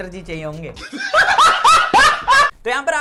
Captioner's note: laughs